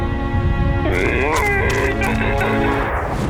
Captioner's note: grunting